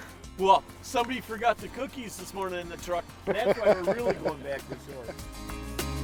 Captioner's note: laughing